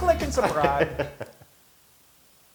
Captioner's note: laugh